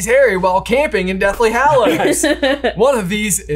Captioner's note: laughs